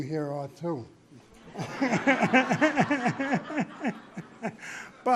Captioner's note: laughter